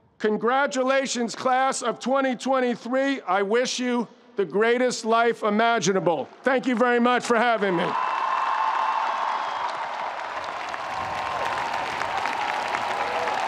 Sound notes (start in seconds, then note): 7.6 audience applauding; 7.7 audience cheering